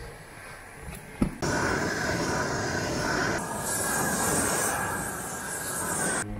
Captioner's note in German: brennerrauschen